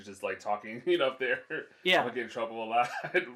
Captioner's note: laughs